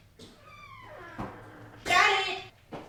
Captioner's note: door creaking